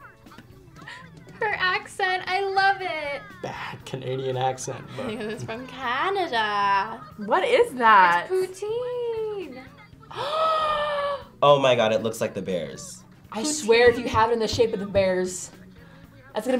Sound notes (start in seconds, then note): 0.6 laughs; 4.4 laughs; 10.0 gasps